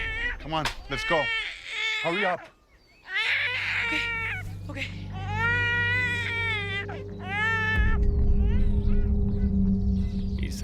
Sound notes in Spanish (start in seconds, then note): 0.0 Llanto del bebé; 3.0 Llanto del bebé